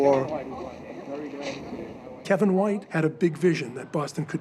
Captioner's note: people talking in background